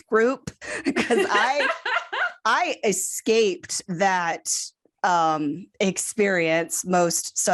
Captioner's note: laughter